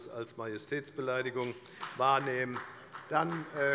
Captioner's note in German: Beifall bei der FDP